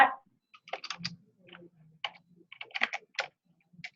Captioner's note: typing